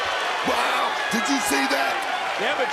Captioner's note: crowd cheers